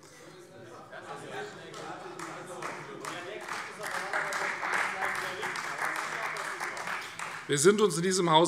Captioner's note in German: Beifall Freie Demokraten - Zurufe AfD